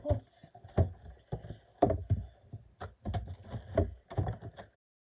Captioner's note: rustling